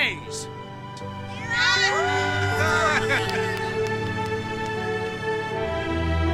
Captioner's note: all cheering; all applauding; dynamic music